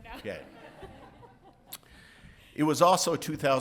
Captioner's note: audience laughing